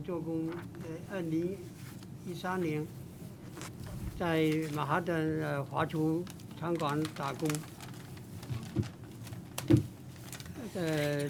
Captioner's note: speaking foreign language